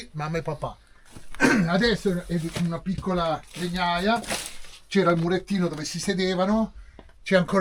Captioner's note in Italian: schiarire la voce